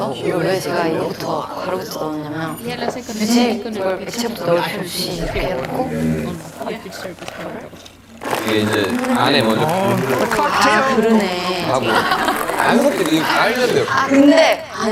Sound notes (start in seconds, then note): 11.6 hahaha